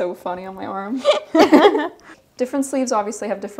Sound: both laughing

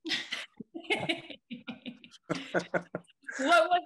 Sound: group laughing

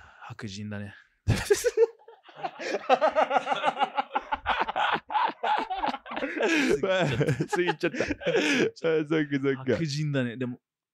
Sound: laughs

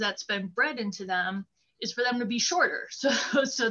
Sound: laughter

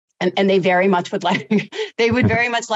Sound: chuckling

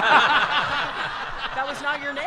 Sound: audience laughter

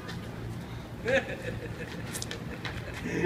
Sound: maniacal laughing

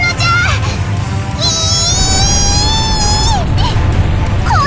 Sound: lamenting shriek

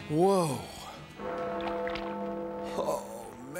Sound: bell tolls

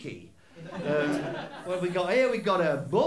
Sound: laughter

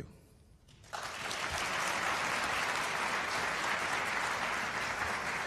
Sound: applause

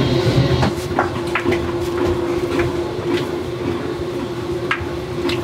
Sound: mixture popping

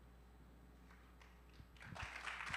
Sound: applause

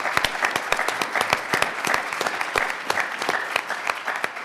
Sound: everyone applauds

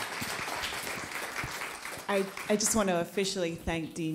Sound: applause

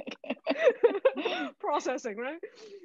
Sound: all laughing

